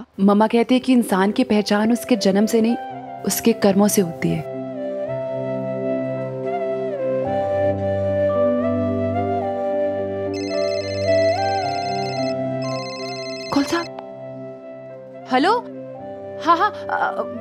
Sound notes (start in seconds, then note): 4.9 mellow music; 10.3 phone ringing